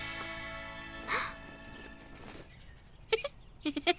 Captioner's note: gasps; laughs